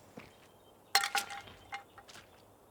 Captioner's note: can rattles